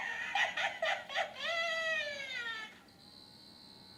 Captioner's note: cackling